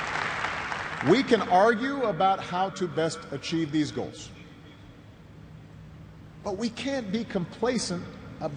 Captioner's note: cheers and applause